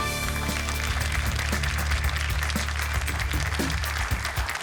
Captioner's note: applause